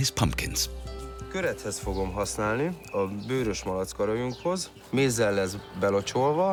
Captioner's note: speaking in foreign language